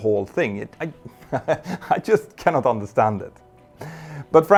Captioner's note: chuckles